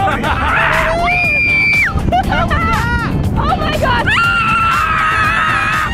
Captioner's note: screaming